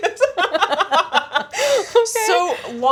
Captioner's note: both laughing